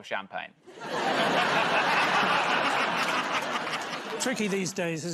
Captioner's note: laughter